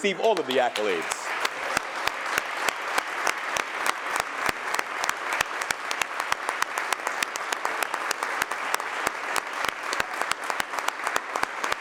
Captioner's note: applause